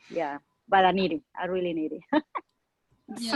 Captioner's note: laughing